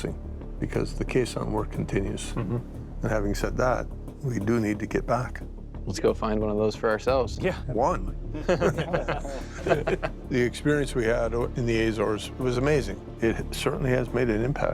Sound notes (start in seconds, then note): 8.3 laughter